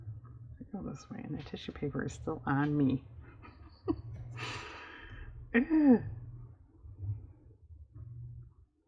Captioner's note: laughs